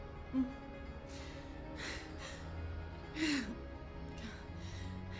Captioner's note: Megan crying